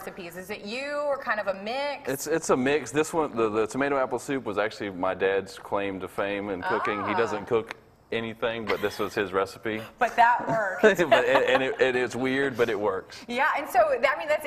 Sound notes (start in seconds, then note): 10.4 laughs